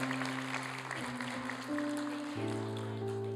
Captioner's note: applause